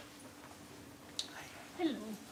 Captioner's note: background chatter